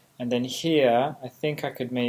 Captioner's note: none